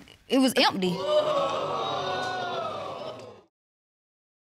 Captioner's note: audience exclaims